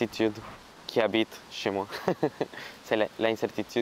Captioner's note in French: rire